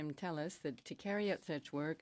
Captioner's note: speaking French